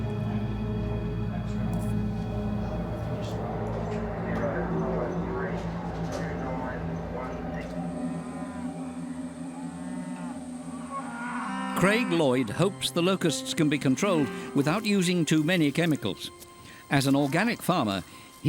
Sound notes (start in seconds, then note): 0.1 suspenseful music; 4.4 indistinct chatter; 7.9 cicadas; 7.9 cows mooing